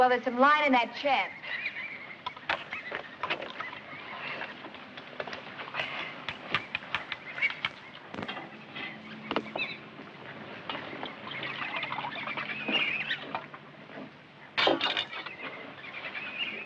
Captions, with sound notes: >> Well, there's some line in that chest. (birds chirping)